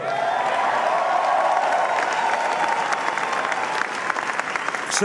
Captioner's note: applause